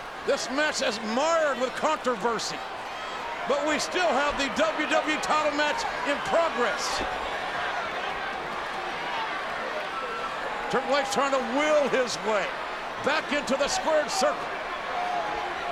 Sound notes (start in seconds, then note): 7.7 audience chattering